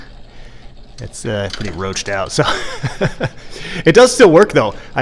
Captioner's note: laughs